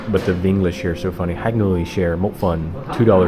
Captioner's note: speaking Vietnamese